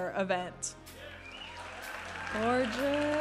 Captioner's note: audience applauding and cheering